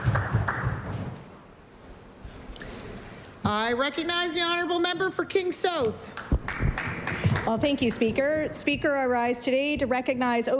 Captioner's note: applause